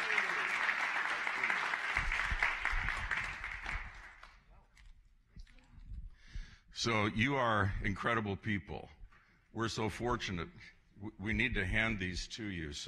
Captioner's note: applause